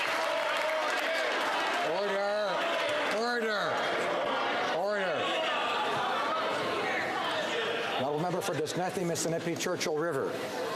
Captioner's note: applause